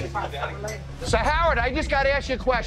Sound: none

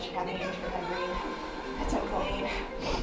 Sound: distorted voice

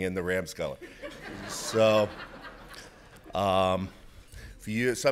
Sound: audience laughs

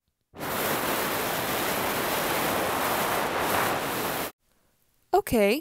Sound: crappy static noises

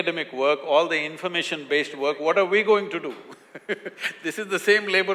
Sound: laughs

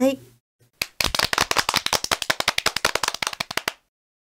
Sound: self-applause

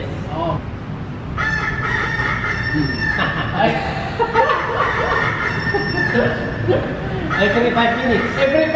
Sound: laughs

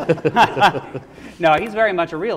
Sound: laughing

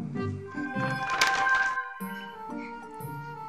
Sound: book tinkling

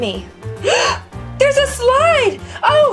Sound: gasp

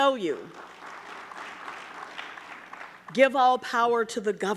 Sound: audience clapping

